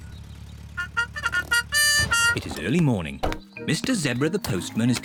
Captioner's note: car horn